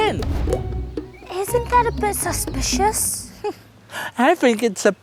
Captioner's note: scoffs